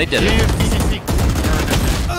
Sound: guns firing

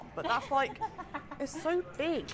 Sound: laughs

